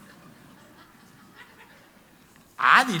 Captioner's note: congregation laughs